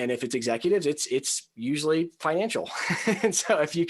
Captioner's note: laughs